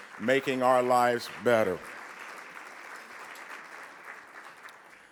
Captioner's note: audience clapping